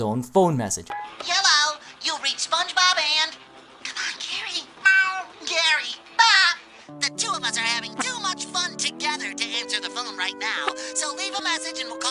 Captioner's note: ridiculous phone message plays